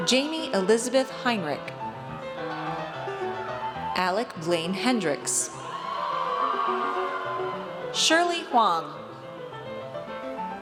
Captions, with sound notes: Jamie Elizabeth Heinrich. Alec Blaine Hendrix. (audience cheers) Shirley Huang.